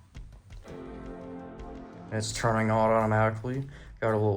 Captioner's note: Mac "startup" sound plays